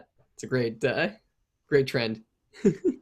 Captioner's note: laughs softly